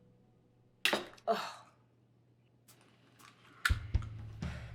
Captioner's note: egg cracks; gentle music